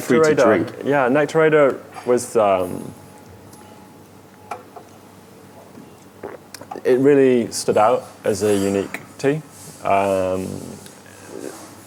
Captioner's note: sips tea